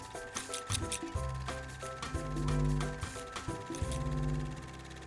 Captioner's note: camera winds; scissors snip